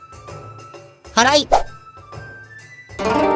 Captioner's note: sweeping